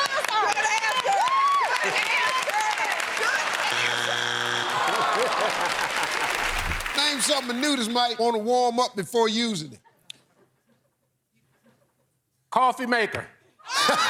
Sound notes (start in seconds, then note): 4.6 laughs